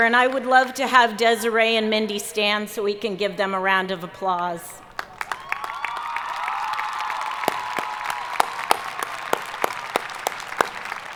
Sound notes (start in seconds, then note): 4.9 audience applauding